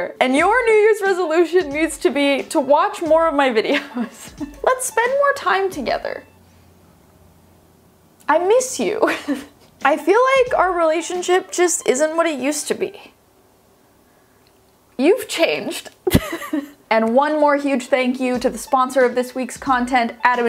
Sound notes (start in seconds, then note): 9.1 laughs; 16.1 laughs